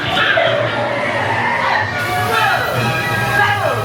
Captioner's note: car brakes